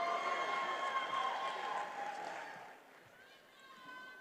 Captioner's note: attendees cheering